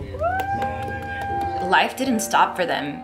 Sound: family cheering

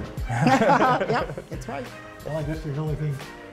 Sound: laughter

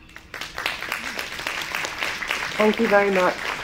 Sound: clapping

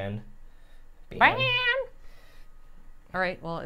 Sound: Safiya imitating Christine

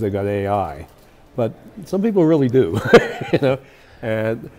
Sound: laughs

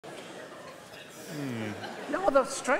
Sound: noisy crowd

